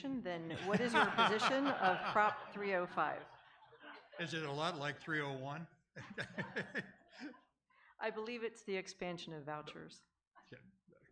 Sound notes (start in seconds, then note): 3.2 audience and candidates laugh; 6.0 laughs